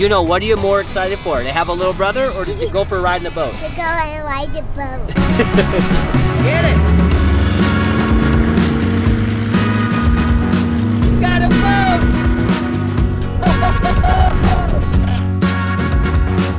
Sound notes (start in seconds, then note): 5.0 laughter; 8.2 boat engine revs